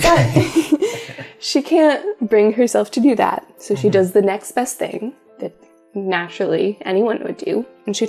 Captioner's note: laugh